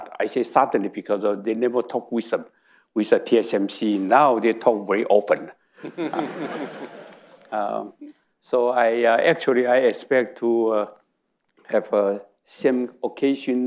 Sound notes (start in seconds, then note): 5.8 audience laughing